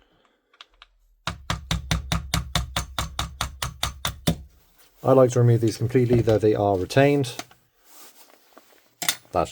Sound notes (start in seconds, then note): 1.3 ever so gentle hammer love taps